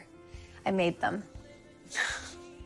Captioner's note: chuckles